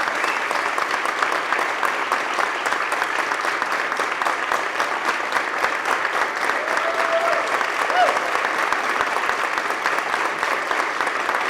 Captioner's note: applause